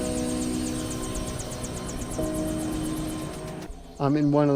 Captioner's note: copter blades whistling